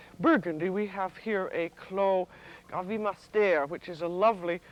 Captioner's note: speaks French